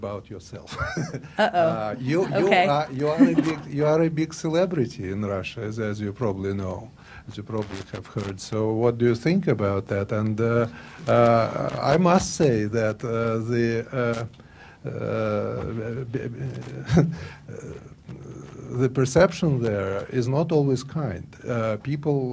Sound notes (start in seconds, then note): 0.7 laughter